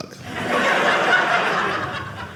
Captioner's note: audience laughing